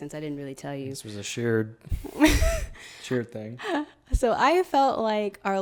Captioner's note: laughs